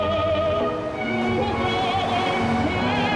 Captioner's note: car engine roaring